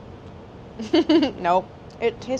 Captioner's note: laughs